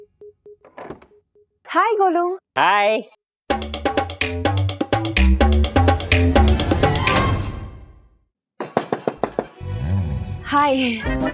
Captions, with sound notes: - Hi, Golu. - Hi. [comical music playing] [knocking on door] Hi.